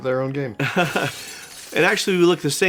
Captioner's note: smash!